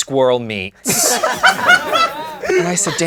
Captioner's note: laughing